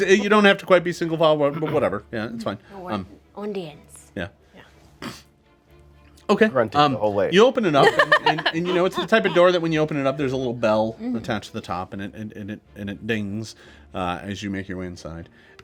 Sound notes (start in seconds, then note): 7.8 laughing